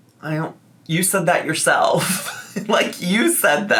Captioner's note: laughs